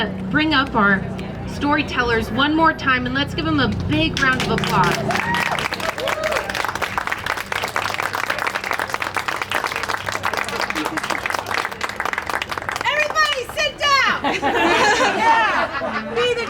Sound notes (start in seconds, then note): 6.7 people cheering and applauding